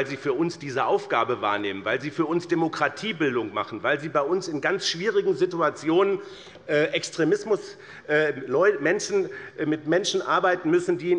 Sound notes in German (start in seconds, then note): none